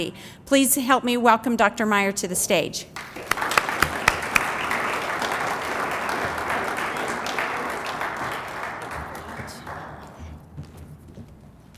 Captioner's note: applause